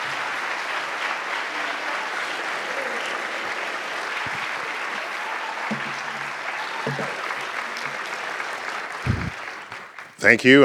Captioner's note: applause